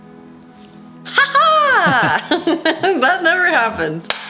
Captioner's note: laughs